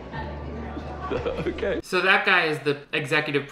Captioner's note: laughs